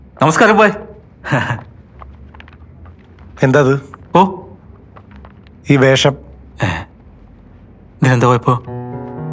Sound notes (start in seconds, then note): 1.2 giggles